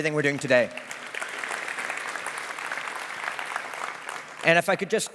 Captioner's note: audience applause